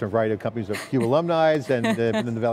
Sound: chuckling

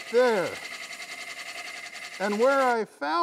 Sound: wood lathe chattering

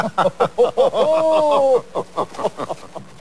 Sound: patronizing laughter

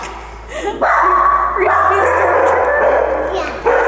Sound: speaker 1 laughing; dog barks

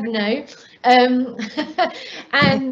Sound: laughing

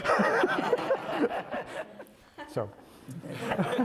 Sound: laughs

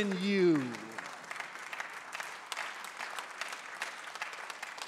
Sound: congregants applauding

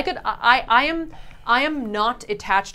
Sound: none

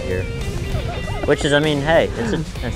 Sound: laughing

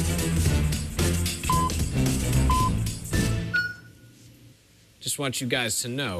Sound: electronic beeping

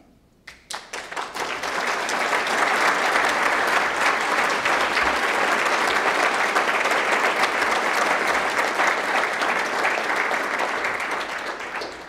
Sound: applause

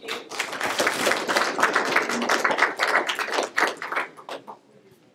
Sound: audience applauds

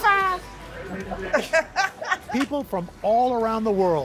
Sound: laughter

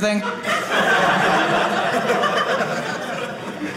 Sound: audience laughing

